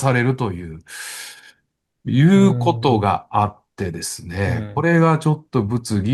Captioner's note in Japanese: 息をのむ音